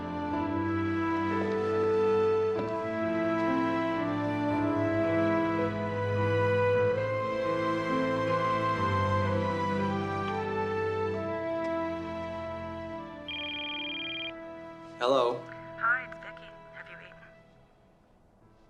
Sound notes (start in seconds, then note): 13.2 phone ringing